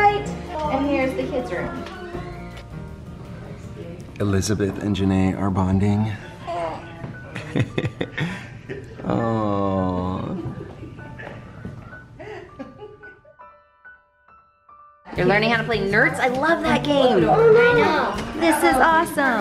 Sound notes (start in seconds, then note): 7.3 laughs